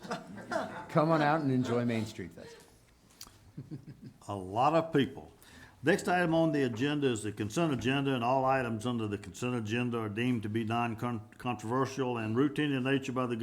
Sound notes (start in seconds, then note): 0.0 group chuckling; 3.2 chuckling